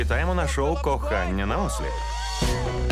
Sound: cheering

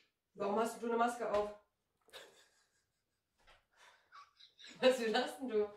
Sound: laughter behind the camera

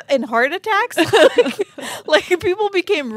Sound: chuckling

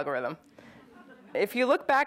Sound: audience chuckles

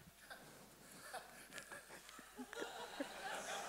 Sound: laughing

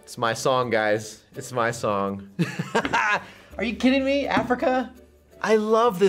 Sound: laughs

